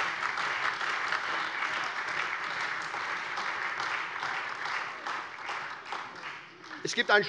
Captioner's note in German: Lebhafter Beifall SPD, AfD und Freie Demokraten